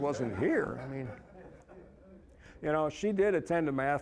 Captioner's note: audience laughing